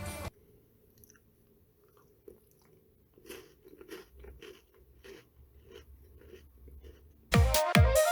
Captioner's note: munching on milk chocolate in the background